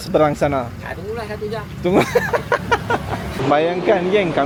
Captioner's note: laugh